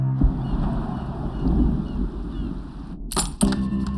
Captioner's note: birds chirping